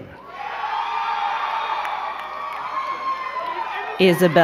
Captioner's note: crowd cheering and clapping